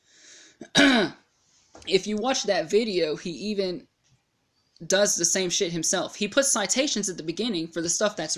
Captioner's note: clears throat